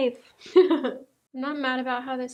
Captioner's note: laughing